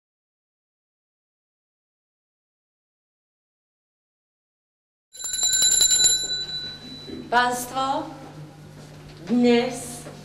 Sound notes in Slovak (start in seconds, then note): 5.2 zvuk zvončeka